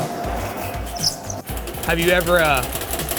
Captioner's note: machine humming; upbeat music continues